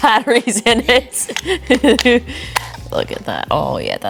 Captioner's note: laughing